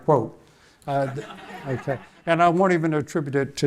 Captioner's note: audience laughing